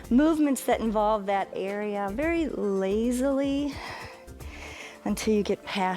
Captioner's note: exhales